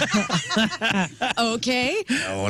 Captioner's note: laughing